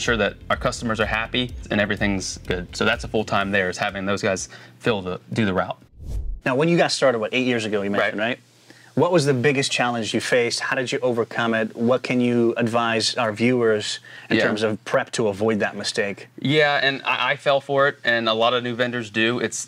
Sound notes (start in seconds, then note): 5.9 air swooshing